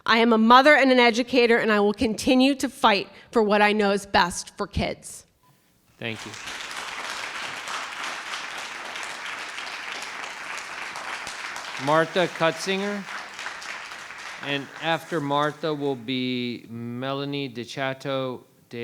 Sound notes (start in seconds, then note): 5.5 microphone beeping; 6.9 attendees applauding